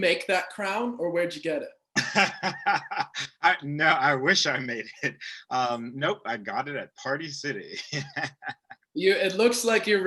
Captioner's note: laughter; laughter